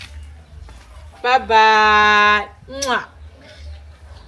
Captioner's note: kisses